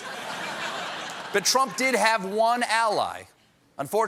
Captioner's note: laughter